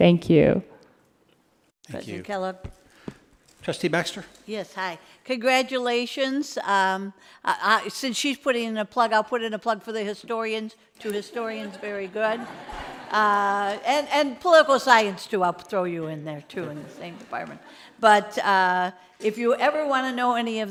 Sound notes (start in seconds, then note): 11.5 audience laughing